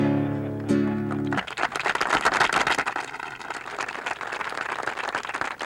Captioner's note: audience laughs; audience applauds